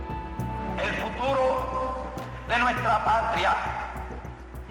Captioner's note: in Spanish